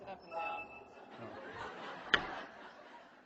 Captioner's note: laughter